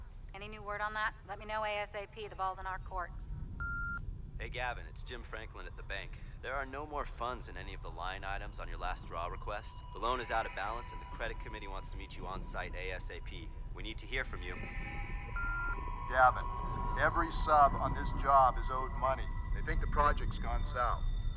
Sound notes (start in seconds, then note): 3.6 beeping; 4.8 voiceover; 13.9 beeping; 16.7 voiceover